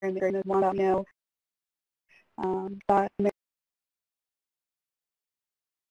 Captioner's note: feedback drowning out speech